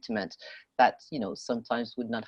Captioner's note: speaking French